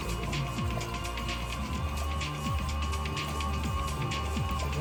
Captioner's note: oil pump spinning; hand pumping the bottle until empty